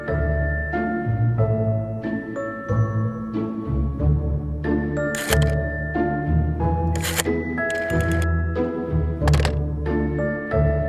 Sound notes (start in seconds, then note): 4.0 rotary dial scrapes; 7.6 rotary dial scrapes and clicks; 9.2 receiver thuds